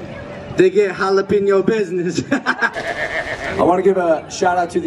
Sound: Logan laughs

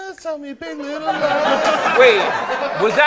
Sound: laughter

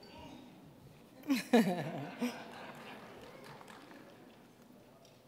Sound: all chuckling

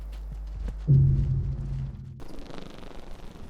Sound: sound of death

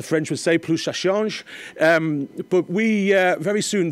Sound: speaking in foreign language

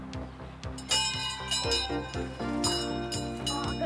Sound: bell ringing

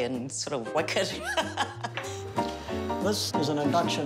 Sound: laughs

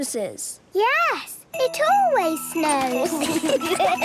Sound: laughter

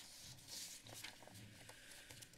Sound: papers flipping

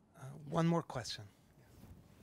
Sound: voiceover

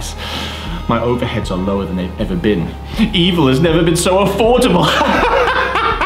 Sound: laughs

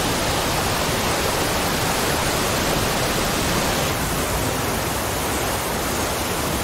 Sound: water falling

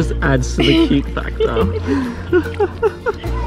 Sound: laughing

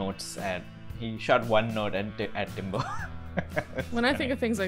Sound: laugh

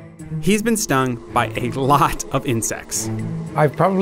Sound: voiceover

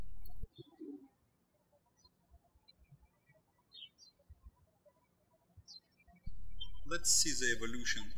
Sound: birds chirping

